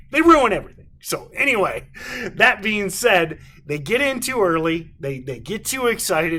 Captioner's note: chuckles